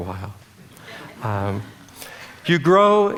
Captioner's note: audience laughter